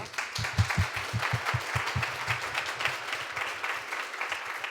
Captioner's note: attendees clapping